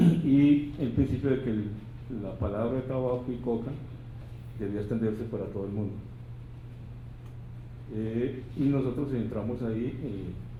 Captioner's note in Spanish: habla en lengua indígena